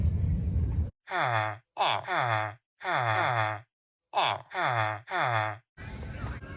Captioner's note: villager noises